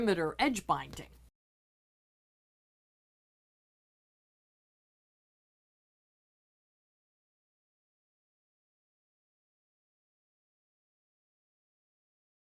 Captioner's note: no Sound Present